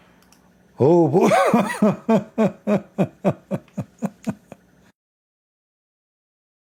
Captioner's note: Ketawa